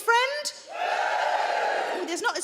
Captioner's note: crowd members cheer